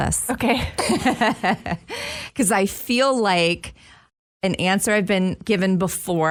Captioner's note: laughs